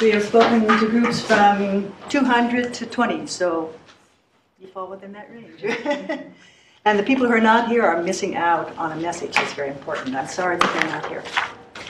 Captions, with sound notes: We have spoken to groups from 200 to 20, so you fall within that range. (laughs) And, the people who are not here are missing out on a message that's very important. I'm sorry that they're not here.